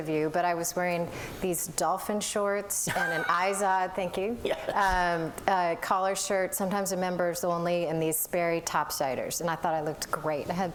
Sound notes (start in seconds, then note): 2.8 laughter